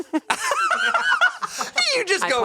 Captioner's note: cackles